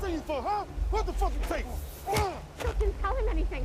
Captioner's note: grunts